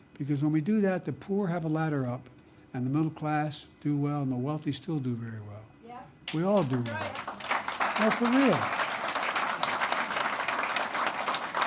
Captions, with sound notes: Because when we do that, the poor have a ladder up and the middle class do well and the wealthy still do very well. (Applause) We all do well. No, for real.